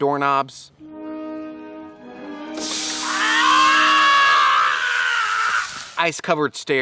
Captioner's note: screaming